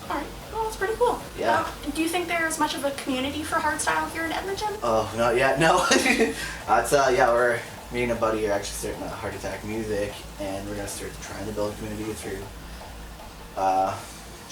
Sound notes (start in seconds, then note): 5.7 laughs